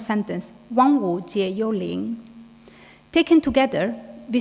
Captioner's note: speaking in foreign language